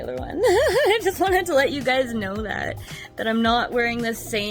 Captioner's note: giggles